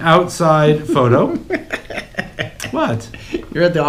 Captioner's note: laughs